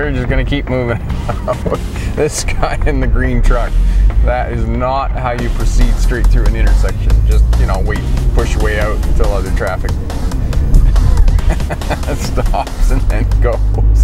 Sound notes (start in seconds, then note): 10.7 laughing